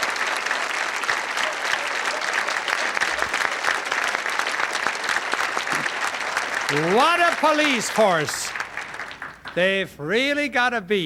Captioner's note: applause